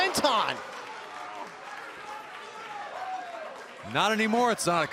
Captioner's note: crowd cheering